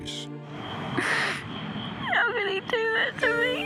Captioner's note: sniffing